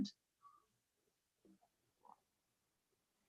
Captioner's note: silence